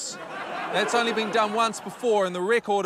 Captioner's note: laughter